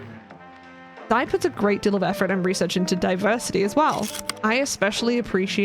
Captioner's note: projector slide click